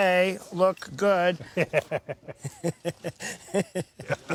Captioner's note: both laugh